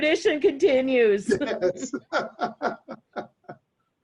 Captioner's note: laughs